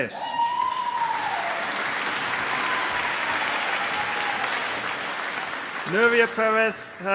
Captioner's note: applause